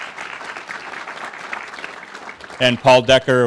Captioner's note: applause